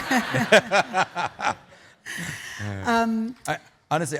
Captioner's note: laughing